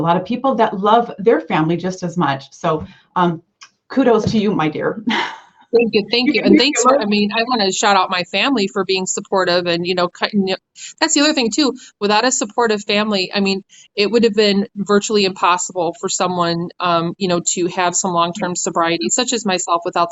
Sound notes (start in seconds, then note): 2.8 kissing